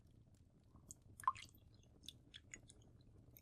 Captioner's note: liquid sloshing